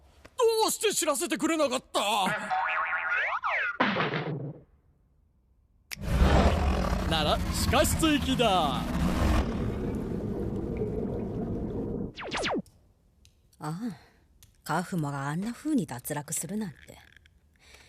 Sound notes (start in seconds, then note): 2.3 bonk!; 2.5 whoop!; 2.6 boing!; 5.9 Kaufmo growling; 9.0 water lapping; 9.3 eerie low rumbling